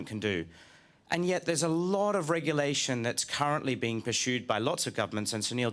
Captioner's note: none